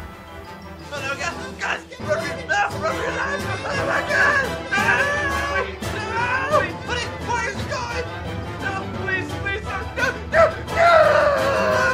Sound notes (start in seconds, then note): 1.1 panicked screams